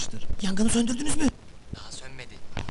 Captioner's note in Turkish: telsizden